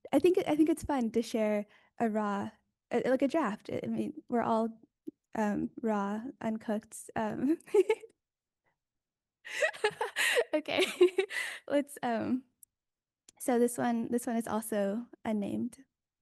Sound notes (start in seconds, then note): 9.5 chuckles; 9.5 laughs